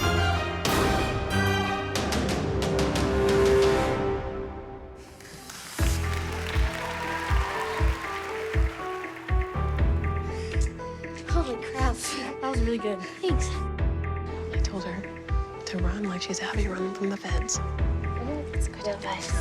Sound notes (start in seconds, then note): 5.1 applause; 5.8 whooping